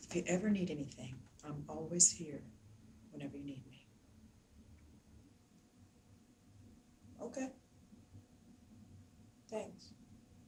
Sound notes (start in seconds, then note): none